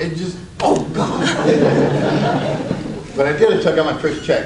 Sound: audience laughs

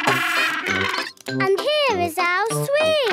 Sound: honking

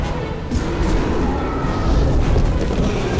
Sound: roar

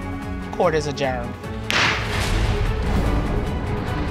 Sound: gavel bangs

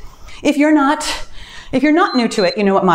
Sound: timer beeps

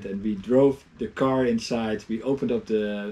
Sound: none

